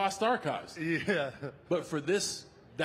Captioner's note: laughs